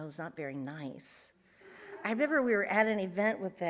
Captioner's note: audience laughs